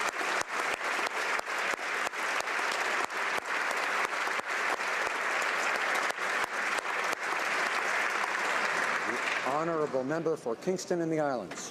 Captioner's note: applause